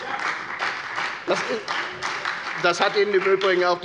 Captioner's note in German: Beifall bei Abgeordneten der FDP und der SPD